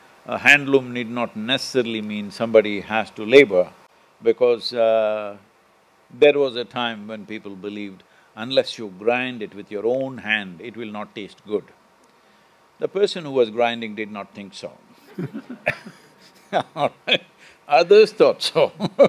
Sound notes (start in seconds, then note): 15.0 few laugh; 18.6 laughs